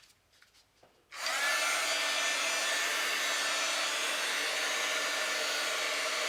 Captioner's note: embossing tool whirring